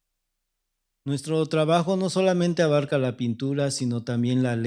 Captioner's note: speaking spanish